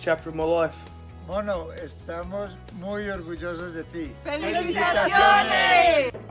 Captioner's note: speaking in foreign language